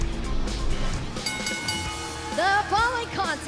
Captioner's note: bell ringing